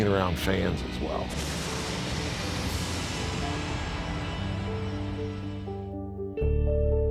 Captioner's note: intense rock music; lightning strikes; sad piano music